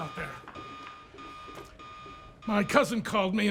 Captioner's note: siren beeping